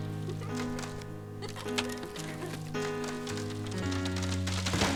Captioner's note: tree branch creaking